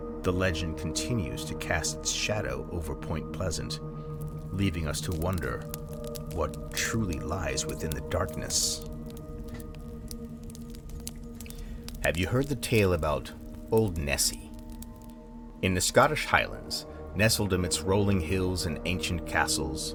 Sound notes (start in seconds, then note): 8.8 fire Crackles